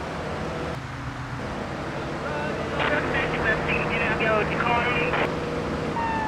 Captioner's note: engine roaring; siren wailing